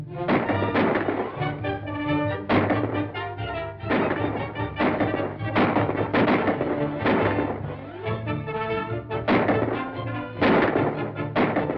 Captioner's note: gunshots firing